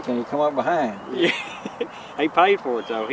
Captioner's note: laughing